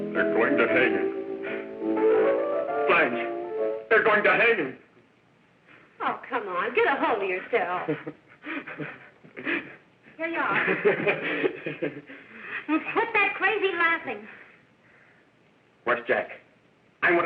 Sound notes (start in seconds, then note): 8.3 sobbing; 10.5 sobbing and laughing